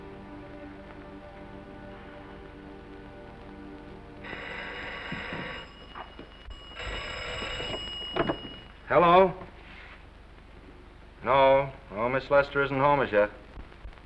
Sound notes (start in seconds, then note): 4.2 telephone rings